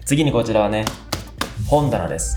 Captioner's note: tap,tap,tap